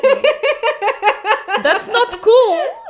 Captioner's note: laughs